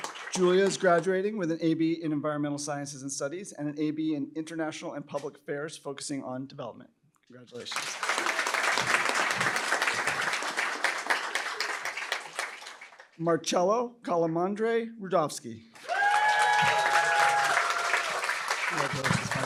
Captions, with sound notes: Julia is graduating with an AB in environmental sciences, and studies and an AB in international and public affairs, focusing on development. Congratulations. [APPLAUSE] Marcello Calamandrei Rudofsky-- [CHEERING, APPLAUSE]